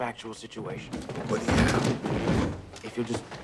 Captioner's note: clattering